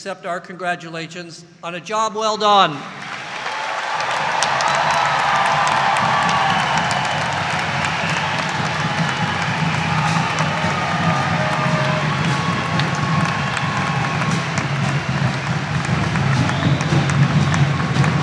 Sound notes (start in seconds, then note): 2.9 audience applauding